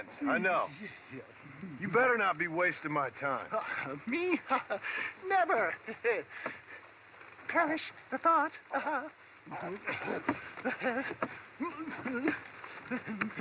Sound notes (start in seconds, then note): 3.4 laughs; 9.5 straining and laughing; 9.8 laughter; 12.8 humming